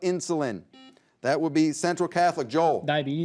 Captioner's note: buzzer beeps